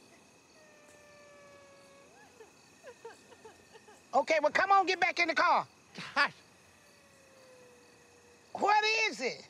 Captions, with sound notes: [CRYING IN DISTANCE] Okay, well, come on. Get back in the car. Hush! What is it?